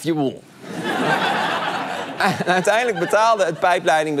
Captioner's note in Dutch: gelach